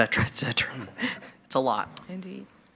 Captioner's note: laughs